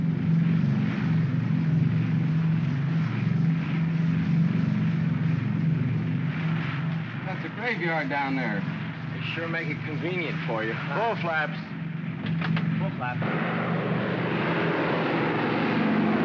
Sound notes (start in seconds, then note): 0.0 aircraft rumbles; 12.1 switch clicks; 13.2 aircraft rumbles